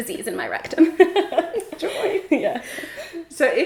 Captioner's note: laughs